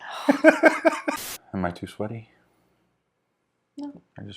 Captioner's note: laughing